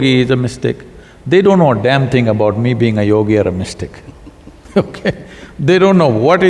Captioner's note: both laugh